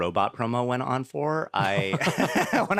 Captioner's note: all laugh